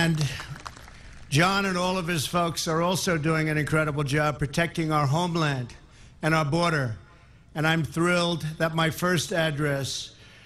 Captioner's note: applause